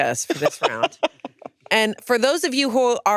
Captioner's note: laughs